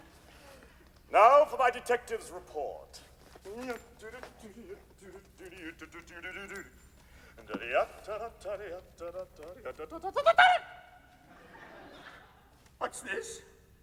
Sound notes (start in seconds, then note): 3.3 hums the song previous